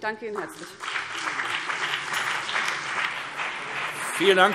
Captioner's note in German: Beifall CDU und BÜNDNIS 90/DIE GRÜNEN